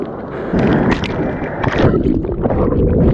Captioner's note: water sloshing